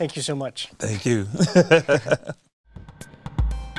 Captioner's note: laughs